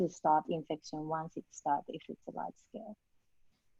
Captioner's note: faintly speaking